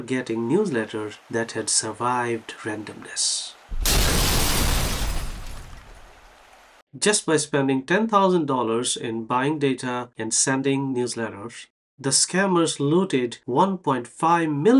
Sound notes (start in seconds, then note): 3.7 house collapsing sound